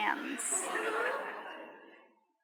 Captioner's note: laughter